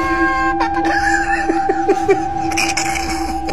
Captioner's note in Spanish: more diabolical laughter